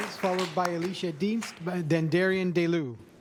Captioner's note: cheers and applause